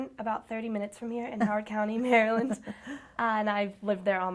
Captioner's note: chuckles